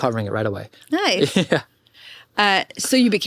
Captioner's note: chuckle